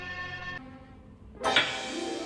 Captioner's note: thud